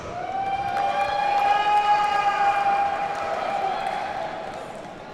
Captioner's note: audience cheers and applauds